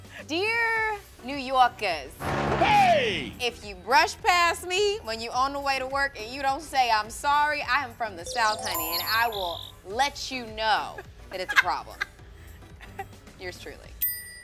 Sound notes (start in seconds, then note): 2.6 taxi engine roaring; 12.7 laughing